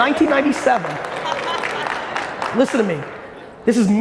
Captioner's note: audience clapping; audience laughing